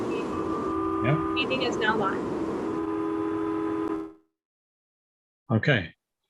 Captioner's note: voice muffling